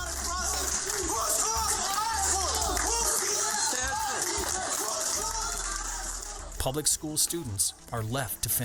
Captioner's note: angry citizens yelling